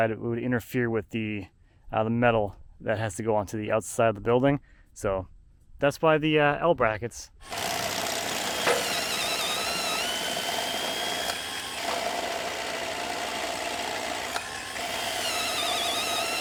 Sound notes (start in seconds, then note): 7.6 tool buzzing